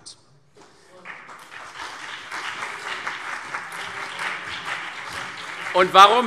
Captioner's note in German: Beifall CDU und BÜNDNIS 90/DIE GRÜNEN